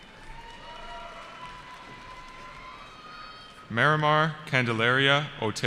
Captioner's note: cheering